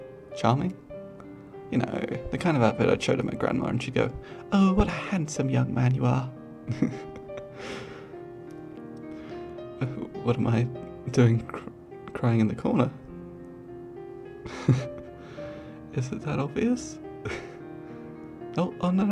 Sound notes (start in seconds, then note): 6.7 laughs; 14.6 scoffs; 17.7 laughs